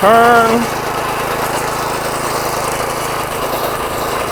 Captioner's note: engine roaring